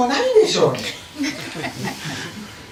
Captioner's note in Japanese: 笑い声